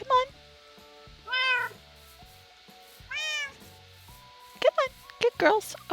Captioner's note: cats meow